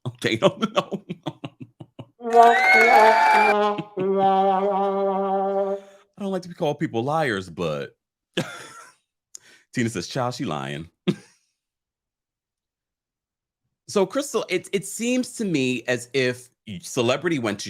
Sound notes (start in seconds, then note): 0.4 laughs; 2.2 crowd cheering; 2.2 trumpet whining; 9.2 laughs; 12.2 giggles